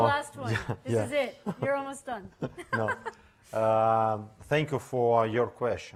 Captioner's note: laughing